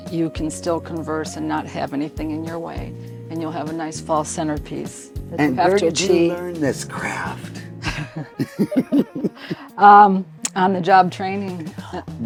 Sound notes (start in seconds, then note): 7.8 chuckling